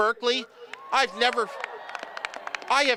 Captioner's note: cheering, applause